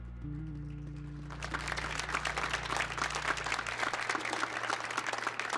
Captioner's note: audience applauds